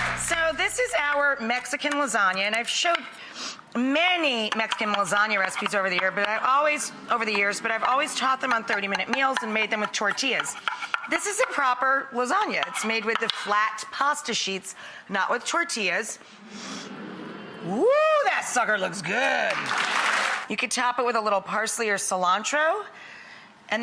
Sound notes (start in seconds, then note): 16.9 crowd coo enthusiastically; 19.2 clapping